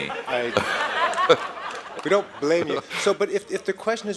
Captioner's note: laughter